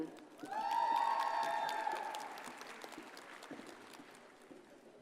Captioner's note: audience cheers and applauds